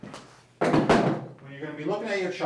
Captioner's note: spine model clatters